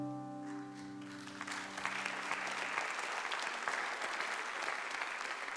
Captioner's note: congregation applauding